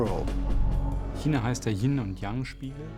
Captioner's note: speaking german